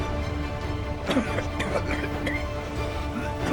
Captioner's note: coughing